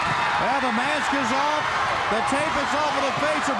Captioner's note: crowd cheering